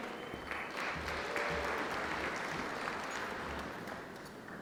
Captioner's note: applause